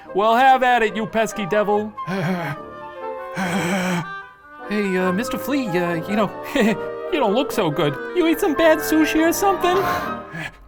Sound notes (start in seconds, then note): 2.0 flea clears throat